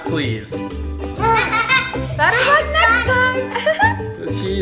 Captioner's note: laughing